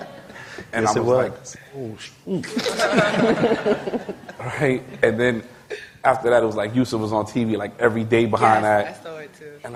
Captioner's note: laughter; laughter